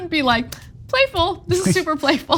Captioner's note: laugh